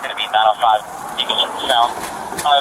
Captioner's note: radio chatter